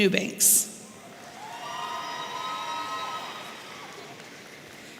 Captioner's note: audience cheering